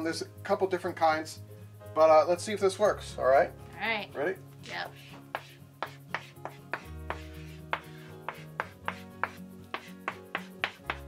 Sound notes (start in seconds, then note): 6.3 chalk scratches